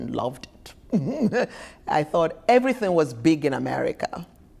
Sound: chuckles

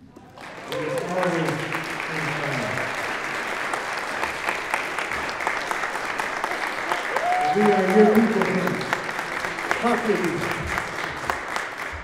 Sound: applause

